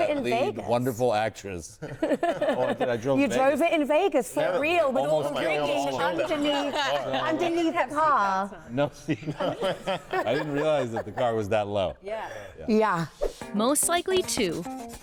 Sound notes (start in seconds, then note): 2.5 laughing; 7.1 all laughing